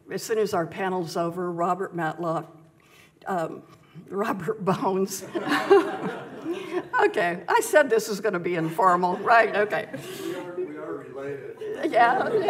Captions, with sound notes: As soon as our panel's over, Robert Matlock... Robert Bones. (laughs) (audience laughs) Okay. I said this was gonna be informal, right? Okay. We are related. Yeah. Yeah.